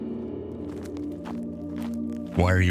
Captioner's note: footsteps approaching